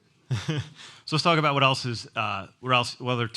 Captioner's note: laughs